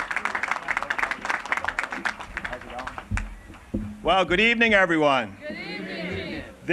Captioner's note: applause